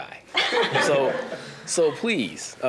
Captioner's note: audience laughing